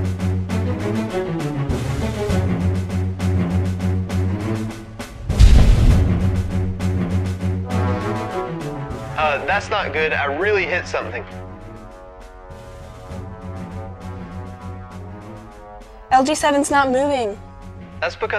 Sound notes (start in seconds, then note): 0.2 instrumental music; 5.0 crash noises; 7.9 instrumental music; 11.4 instrumental music